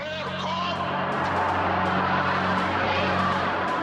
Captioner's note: crowd chattering